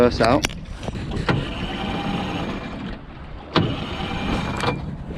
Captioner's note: motor turning